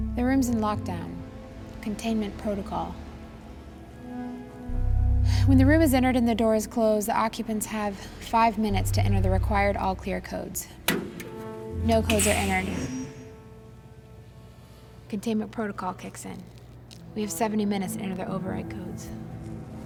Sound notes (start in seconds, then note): none